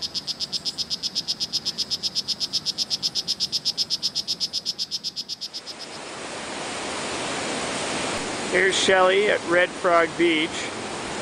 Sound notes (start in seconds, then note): 0.0 frog Chirping; 5.5 waves Crashing